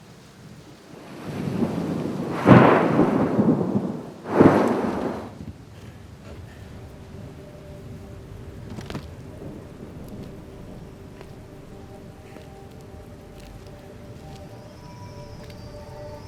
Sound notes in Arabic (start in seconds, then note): 2.3 دوي الرعد; 2.3 طقطقة المطر; 7.3 موسيقى تلوح في الأفق